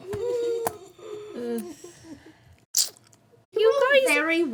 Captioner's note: whimpering